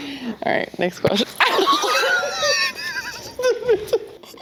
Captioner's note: laughter